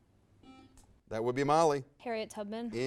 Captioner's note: buzz